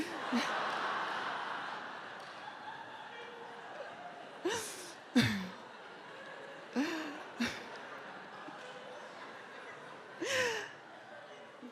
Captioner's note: audience laughter